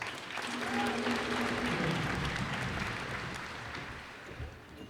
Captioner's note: cheers and applause